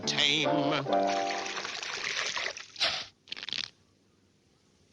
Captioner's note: water splashing